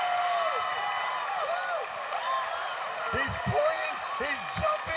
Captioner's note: cheers and applause